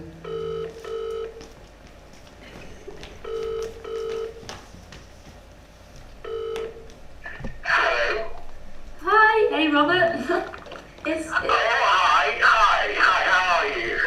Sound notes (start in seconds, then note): 0.1 phone ringing; 8.1 on phone